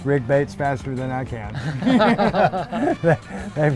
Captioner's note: both laugh